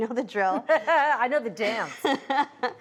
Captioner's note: laughs